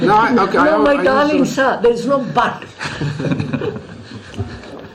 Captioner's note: laughs